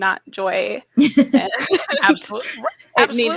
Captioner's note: laughing